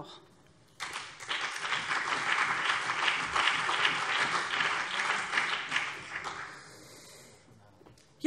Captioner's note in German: Beifall BÜNDNIS 90/DIE GRÜNEN und CDU